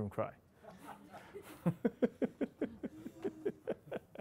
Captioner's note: laughing